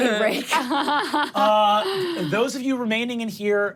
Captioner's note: laughs